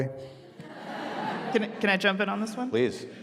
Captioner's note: audience laughing